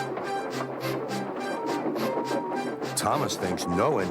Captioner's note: toot toot